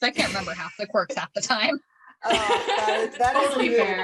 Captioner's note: laughter